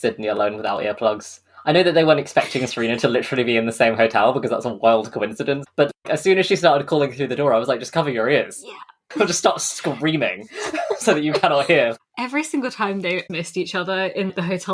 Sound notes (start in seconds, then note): 8.7 whispers; 10.4 laughs